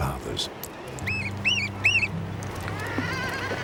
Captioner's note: bird chirping